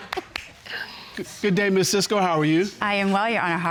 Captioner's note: chuckling